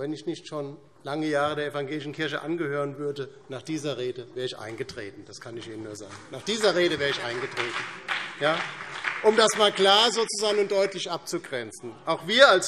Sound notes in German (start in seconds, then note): 7.3 Beifall DIE LINKE und vereinzelt BÜNDNIS 90/DIE GRÜNEN